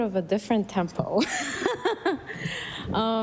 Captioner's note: laughter